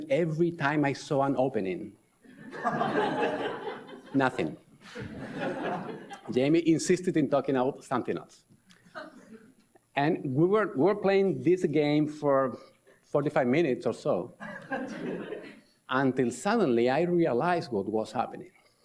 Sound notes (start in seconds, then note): 2.4 audience laughs